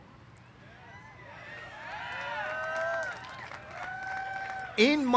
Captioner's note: cheers